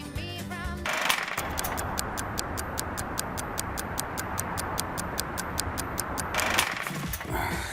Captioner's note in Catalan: tic-tac